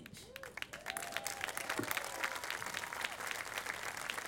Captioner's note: audience applauding